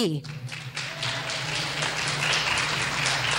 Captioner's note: clapping